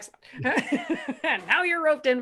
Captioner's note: laughs